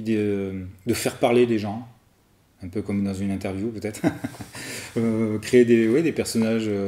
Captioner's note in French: rires